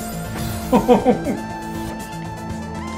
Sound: laughs

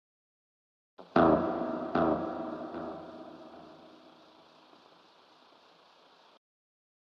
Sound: sound of creature

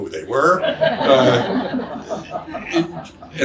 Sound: audience laughs

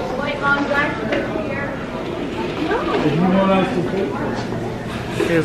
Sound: cast member chattering

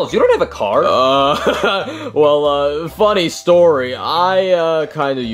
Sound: laughing

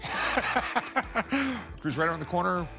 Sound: laughter

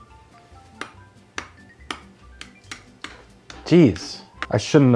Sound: spoon tapping

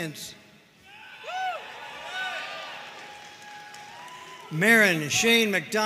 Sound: audience cheering and applauding

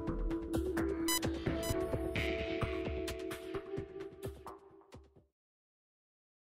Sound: beeping

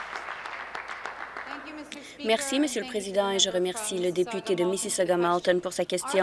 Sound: applause

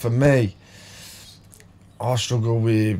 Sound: silence

